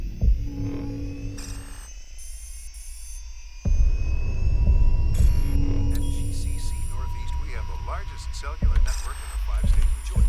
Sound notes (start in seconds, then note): 5.6 man 1 Over Radio; 10.1 man 2 Over Radio